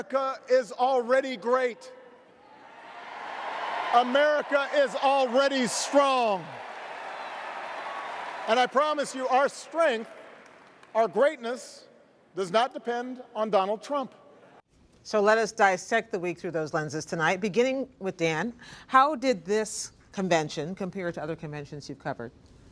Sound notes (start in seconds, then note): 2.5 cheers, applause